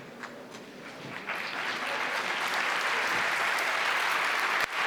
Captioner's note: applause